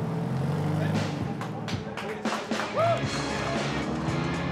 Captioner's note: cheering, applause; upbeat rock music